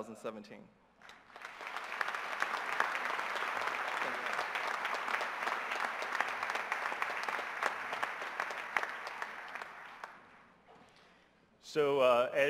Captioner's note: applause